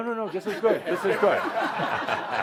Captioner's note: laughter